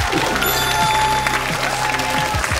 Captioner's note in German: Jubel